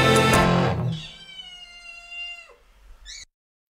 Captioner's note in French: miaou